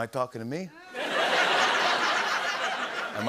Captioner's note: laughter